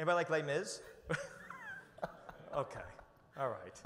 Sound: chuckles

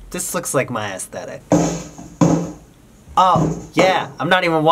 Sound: kid punching box sounds in background

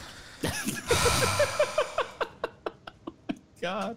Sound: laughs

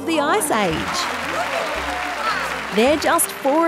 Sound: applause

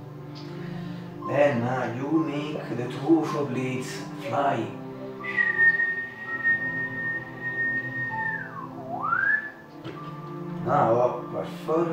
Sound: whistle

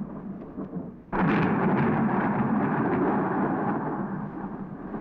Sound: thunder crashing

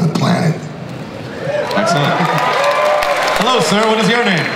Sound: audience cheering

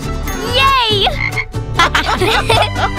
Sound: frog croaks; everyone laughs

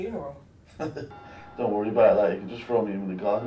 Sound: laughing

